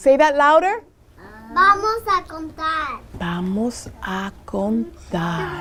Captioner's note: speaking Spanish